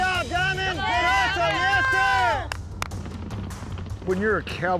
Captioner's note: shouting encouragement